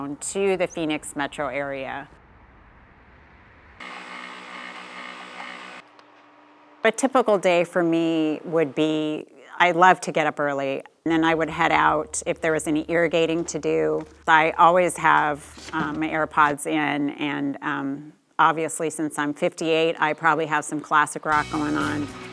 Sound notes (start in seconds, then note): 2.1 cars whooshing; 3.8 coffee machine whirring; 21.4 light rock music